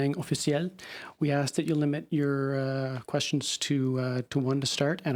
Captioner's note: speaking French